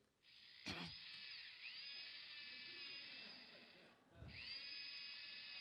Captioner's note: tools whirring